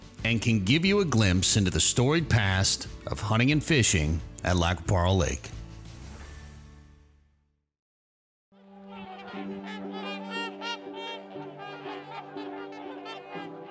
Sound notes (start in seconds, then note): 8.9 geese quacking